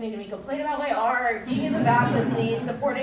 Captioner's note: audience chuckling